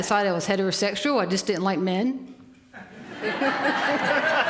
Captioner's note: laughter